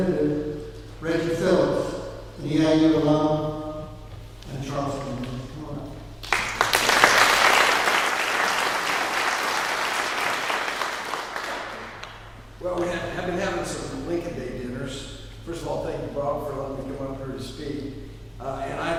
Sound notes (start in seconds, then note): 6.2 clapping